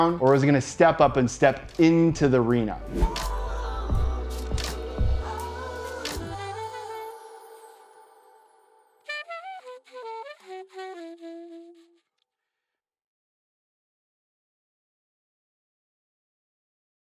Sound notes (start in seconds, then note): 2.8 air whooshing; 2.9 upbeat music